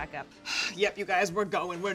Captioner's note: exhales